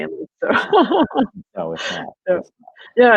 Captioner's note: laughing